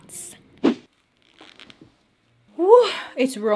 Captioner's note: whooshing